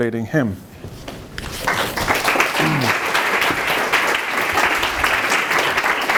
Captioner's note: applause